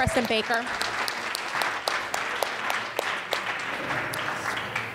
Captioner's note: audience applauds